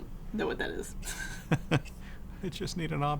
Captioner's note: laughs